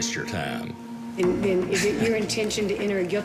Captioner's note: scoffs